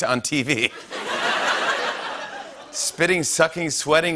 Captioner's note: laughter